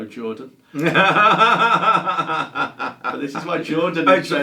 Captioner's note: laughter